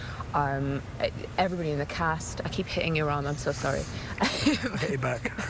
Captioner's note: laughs